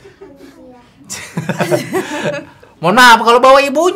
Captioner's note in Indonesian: Tertawa